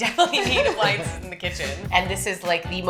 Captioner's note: laugh